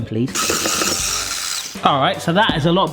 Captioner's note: mixer whirs